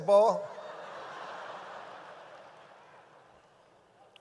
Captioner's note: audience laughs